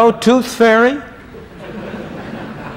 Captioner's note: laughter